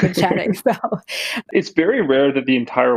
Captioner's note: laughs